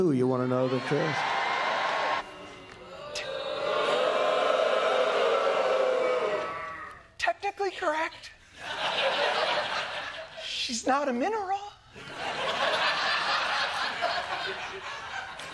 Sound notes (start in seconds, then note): 2.3 audience booing; 8.5 laughter; 12.0 laughter